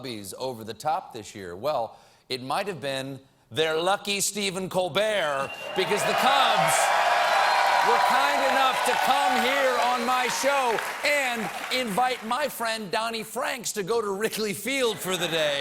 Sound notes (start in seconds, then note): 5.4 cheers and applause